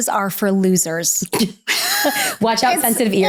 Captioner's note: both laugh